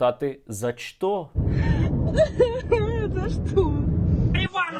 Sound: sobs

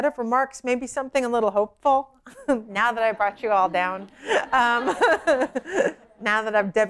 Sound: laughter

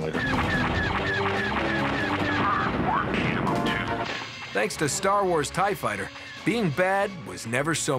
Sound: lasers blast

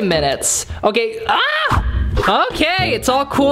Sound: screams

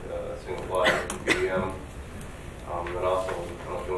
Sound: coughing drowns out speaker

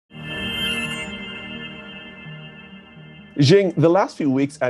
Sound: sound effects playing

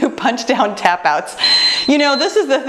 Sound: timer beeps

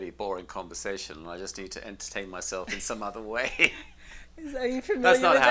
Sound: laughs

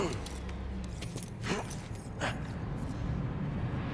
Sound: strains with effort; grunt

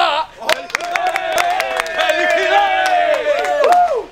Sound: everyone cheering

